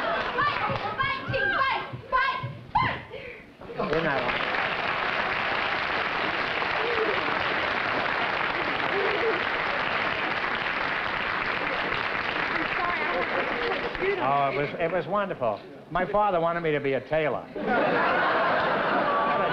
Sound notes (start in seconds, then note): 4.9 applause